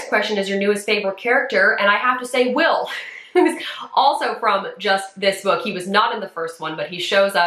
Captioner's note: chuckles